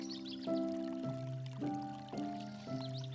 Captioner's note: water pouring